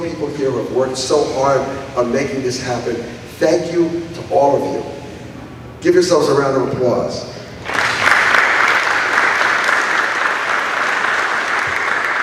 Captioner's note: applause